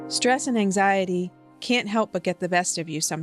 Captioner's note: voiceover